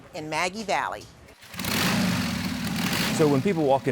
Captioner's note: motorcycle revving